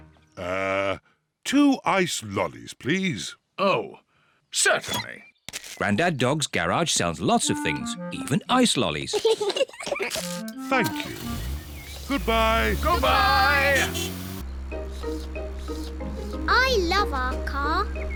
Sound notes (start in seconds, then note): 9.1 both laugh; 14.5 slurping